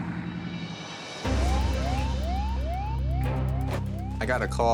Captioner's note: sirens blaring